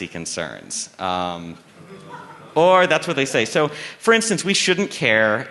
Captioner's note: laughter